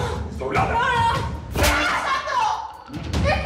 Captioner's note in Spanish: Gritos